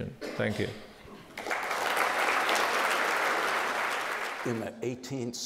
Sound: crowd applauding

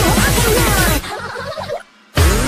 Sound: insert crazy laughter here

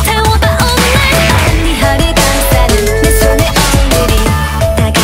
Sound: mmm

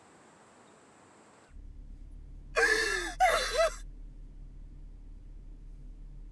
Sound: crying

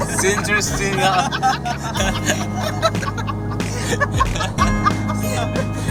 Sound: laughs

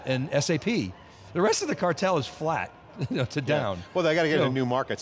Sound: laughs

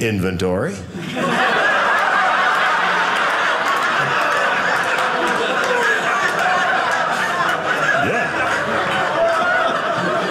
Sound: audience laughing

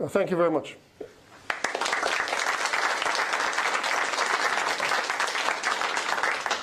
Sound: applause

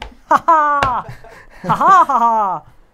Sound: laughing; laughs; laughing; laughs

